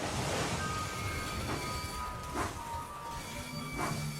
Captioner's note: wheels screech